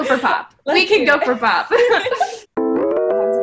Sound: both laughing; pop music

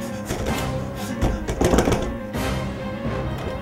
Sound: shaking the door

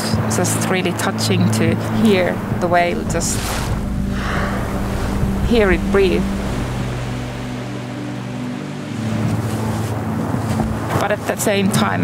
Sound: whale spouting noise

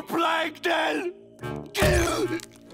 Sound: grunting

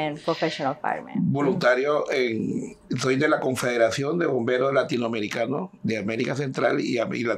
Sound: speaking in Spanish

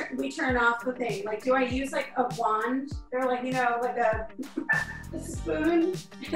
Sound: giggling; chuckles

